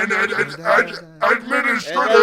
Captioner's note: mockingly